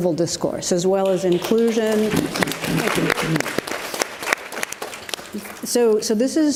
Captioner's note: audience applauds